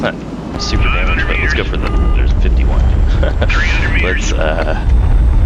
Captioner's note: laughs